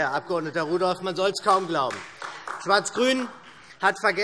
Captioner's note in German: Beifall SPD und vereinzelt DIE LINKE